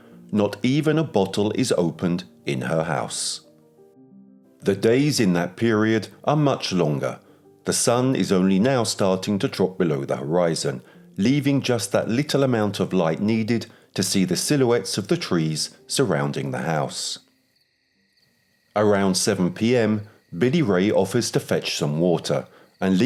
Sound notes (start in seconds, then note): 16.1 crickets chirping